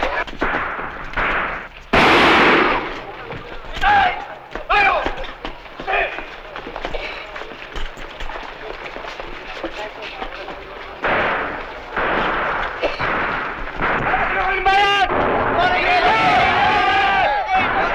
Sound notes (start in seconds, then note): 0.0 gunshot; 3.9 non-english speech; 10.9 distant gunfire; 14.2 non-english shouting